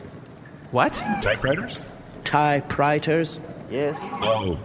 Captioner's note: enunciating carefully